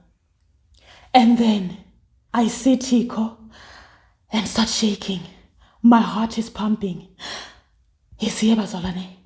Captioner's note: gasps